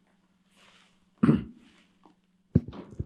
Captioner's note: clears throat